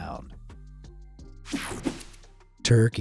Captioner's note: swoshing